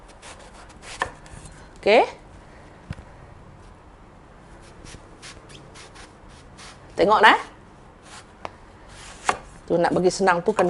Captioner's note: slicing eggplant